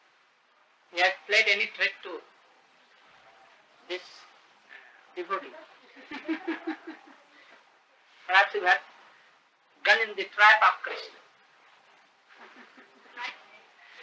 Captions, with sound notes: He has played any trick to this devotee. *Laughter* Perhaps you have gone in the trap of Krsna. She likes it.